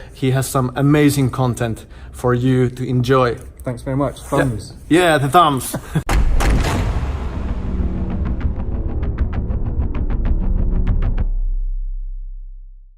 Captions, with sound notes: He has some amazing content for you to enjoy. - Thanks very much, thumbs. - Yeah, the thumbs. (loud explosion) (dramatic electronic music)